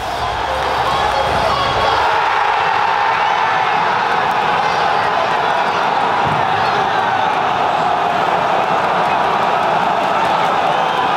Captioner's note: crowd shouting loudly